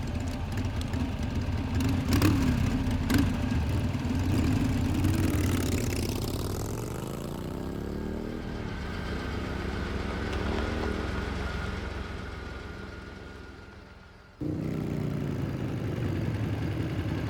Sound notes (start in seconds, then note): 0.1 motorbike revving; 9.7 car rumbling